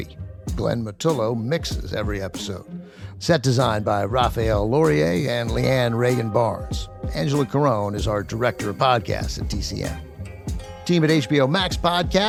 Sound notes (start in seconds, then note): none